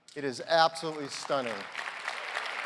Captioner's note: applause